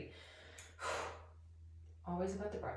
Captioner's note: sigh